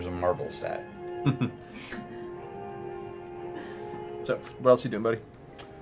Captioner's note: chuckles